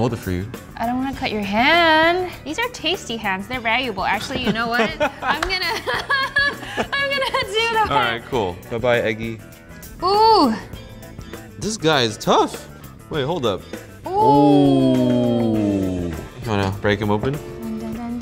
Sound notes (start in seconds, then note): 5.7 laughter drowns out speaking